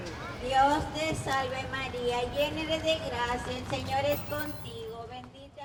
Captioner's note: woman speaking Spanish